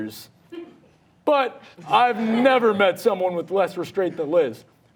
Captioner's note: audience laughing